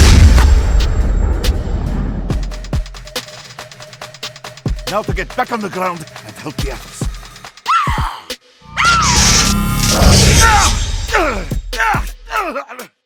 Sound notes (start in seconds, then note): 0.1 crossbow shot plops; 9.7 fires; 11.1 William groaning